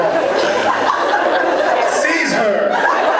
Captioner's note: laughs